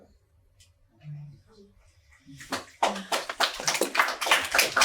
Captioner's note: audience applause